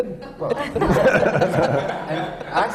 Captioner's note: laughter